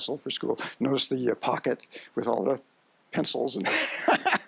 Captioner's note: laughs